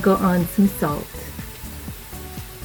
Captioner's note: sizzle